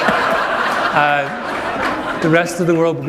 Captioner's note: laughter